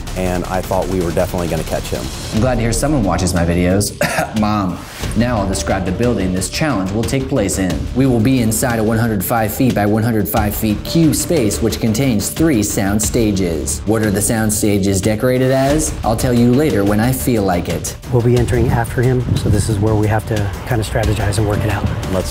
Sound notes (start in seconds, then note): 3.8 coughs